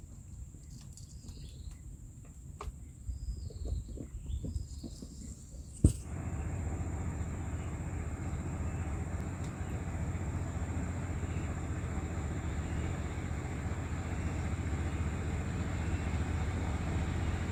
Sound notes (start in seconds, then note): 7.8 boat sounds